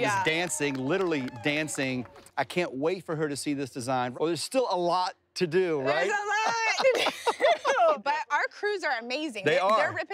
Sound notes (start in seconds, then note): 6.0 laughing